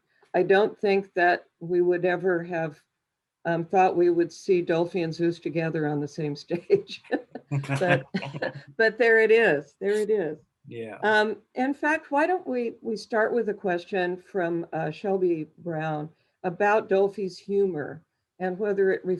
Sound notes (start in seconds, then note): 7.5 chuckle